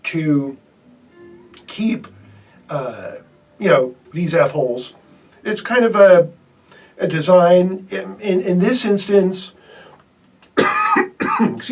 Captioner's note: cough